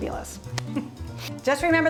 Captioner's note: laughs